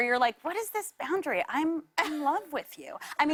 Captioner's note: laughter